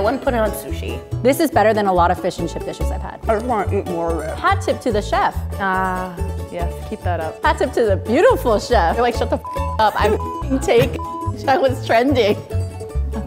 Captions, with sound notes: - I mean, I wouldn't put it on sushi. - This is better than a lot of fish and chips dishes I've had. - I just want to eat more of it. - Hats off to the chef. - Ah, yes, keep that up. - Hats off to the beautiful chef. All right, shut the (beep) up. I'll (beep)ing take what's trending.